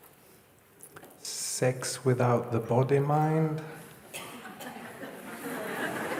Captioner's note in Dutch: gelach